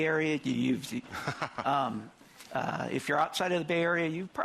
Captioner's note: laughing